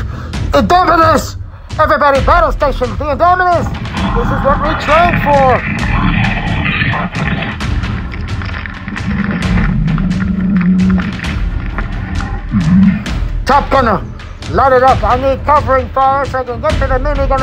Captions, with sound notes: The indominus! Everybody battle stations!. The Indominus! This is what we trained for! (growling and bones breaking) Top gunner! Light it up! I need covering fire so I can get to the mini gun in the back!.